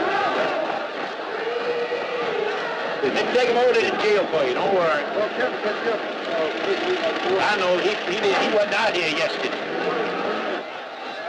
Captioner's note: cheering Freedom and Marching